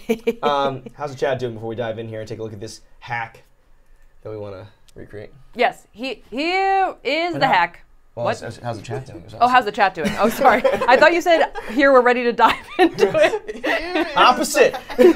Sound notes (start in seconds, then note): 12.3 laughing